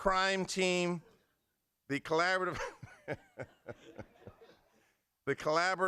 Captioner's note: laughter